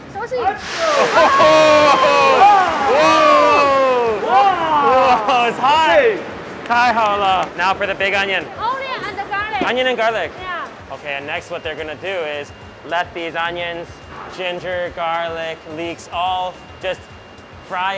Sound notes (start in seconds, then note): 0.5 water sizzles; 6.8 water sizzling